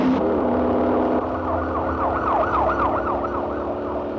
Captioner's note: car engines revving; police sirens blaring; car engines revving